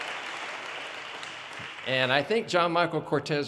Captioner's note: audience cheers and applause